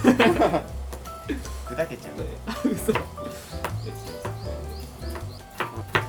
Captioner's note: laughs